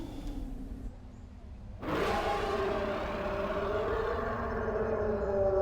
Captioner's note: A roar